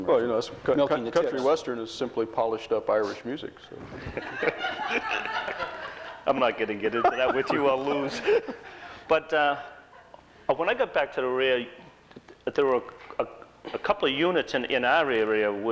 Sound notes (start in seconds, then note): 3.8 laughter